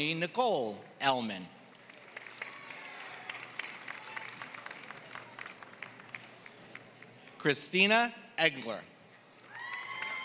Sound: applause; applause

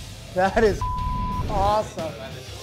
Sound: beep

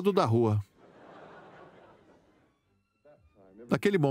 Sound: audience laughs

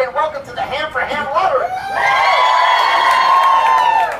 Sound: cheers

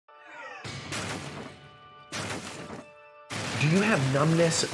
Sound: crashing sounds

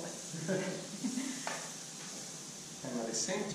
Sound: laughter

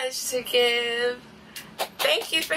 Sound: clapping

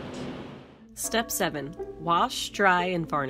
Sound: gong chimes

